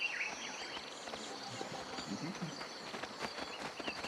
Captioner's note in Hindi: चहचहाहट